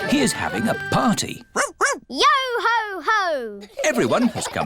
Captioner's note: barks